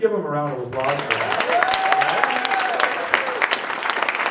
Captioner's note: applause